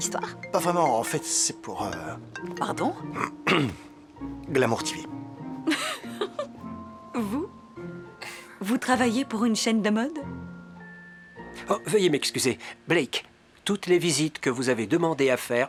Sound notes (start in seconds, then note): 2.4 phone rings; 5.6 laughs